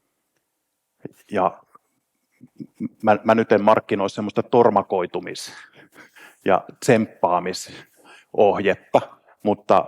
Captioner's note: chuckles